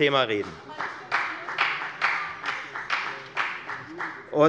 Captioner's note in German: Beifall bei der FDP